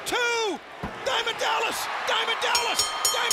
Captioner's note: bell ringing